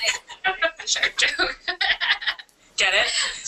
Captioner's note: laughter